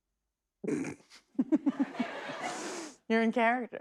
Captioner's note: laughs